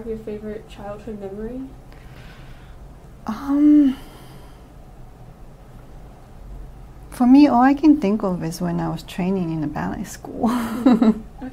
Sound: laughs

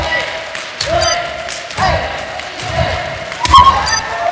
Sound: counting and cheering them on

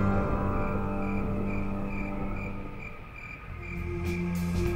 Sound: insects chirping; dramatic music

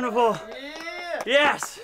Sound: cheering

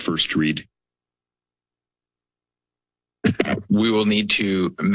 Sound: silence

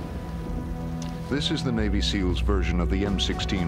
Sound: voiceover

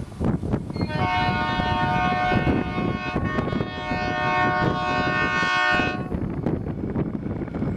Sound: approaching train noise; Loco horns

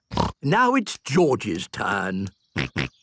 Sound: snort; snort, laughing

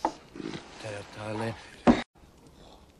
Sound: speaking Norwegian

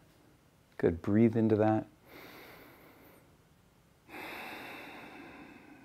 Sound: breathing deeply

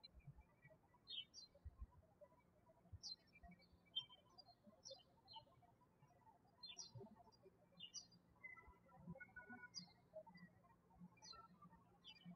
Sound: birds chirping

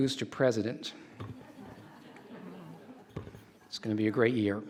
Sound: audience laughs

